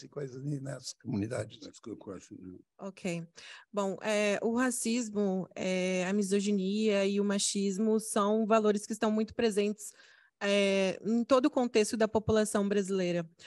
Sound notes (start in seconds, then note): 0.0 speaking Portuguese; 4.5 speaking Portuguese